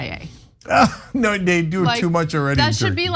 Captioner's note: laugh